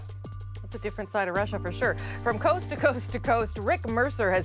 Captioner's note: speaking russian